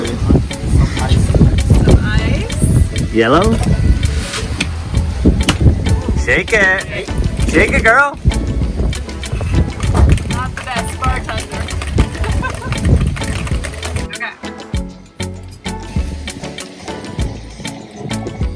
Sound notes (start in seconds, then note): 5.4 hand banging; 12.2 laughter; 12.5 ice clapping; 15.5 soothing music